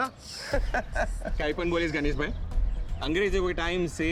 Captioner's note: all laughing